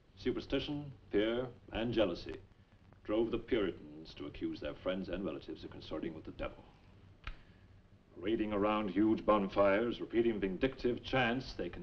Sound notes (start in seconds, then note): none